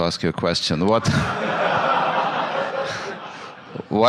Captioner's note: laughter